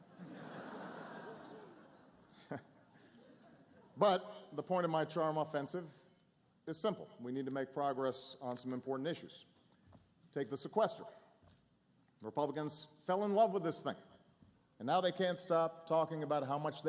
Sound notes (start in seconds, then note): 0.0 laughter